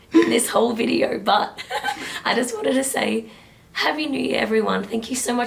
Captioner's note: laughs